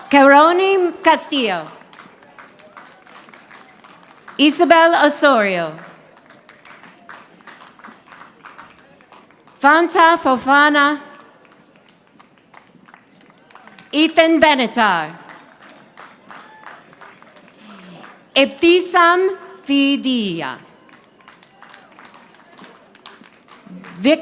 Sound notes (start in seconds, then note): 1.6 audience applauding; 5.8 audience applauding; 11.2 audience applauding; 15.2 audience applauding; 20.6 audience applauding